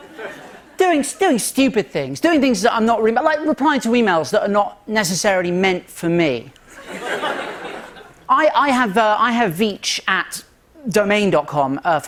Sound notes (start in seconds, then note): 6.6 laughter